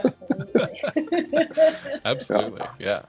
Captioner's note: everyone laughs